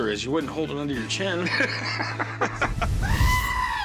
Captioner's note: laughter